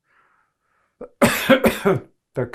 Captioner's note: coughing